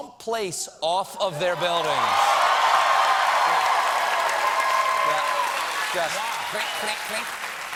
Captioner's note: cheers and applause